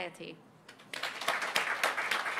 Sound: applause

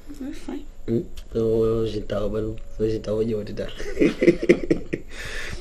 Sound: laughs

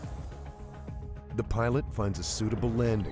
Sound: voiceover

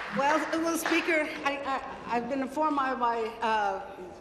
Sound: applause

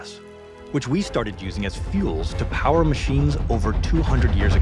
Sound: train horn blowing

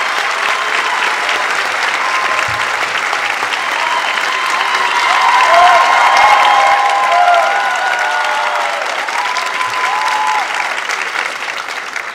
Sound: applause

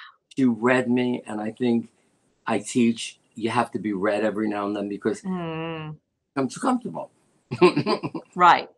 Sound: laughter

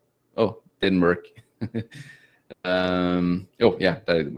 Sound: chuckles

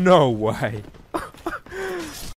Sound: laughs

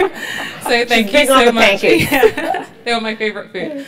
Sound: laugh

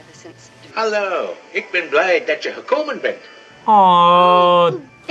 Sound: Santa speaks in Dutch

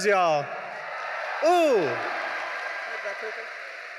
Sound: audience cheering

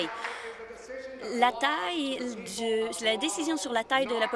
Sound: applause

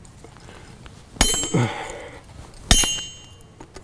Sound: hammer falling

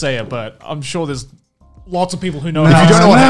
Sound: humming

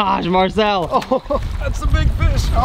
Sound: laughs

